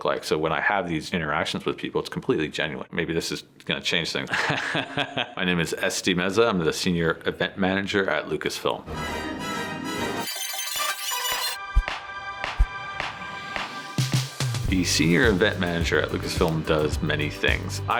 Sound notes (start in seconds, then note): 4.3 laughs